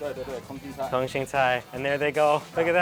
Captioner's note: speaks in a foreign language